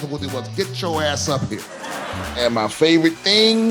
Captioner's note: audience laughing